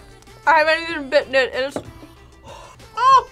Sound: exhales

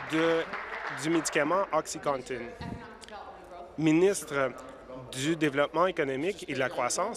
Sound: applause

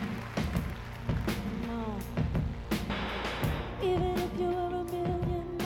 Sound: applause

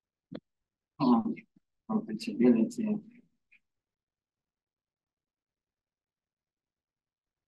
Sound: audio distorting

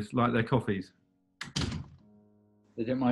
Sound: loky hitting door

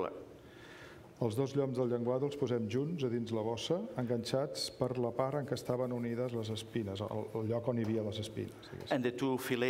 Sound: speaking catalan

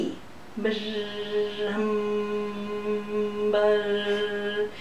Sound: buzzing sounds; humming sounds

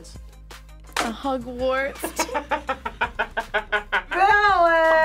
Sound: both laugh

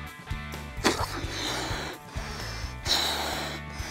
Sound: air blowing

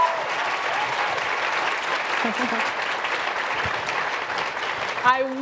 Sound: applause

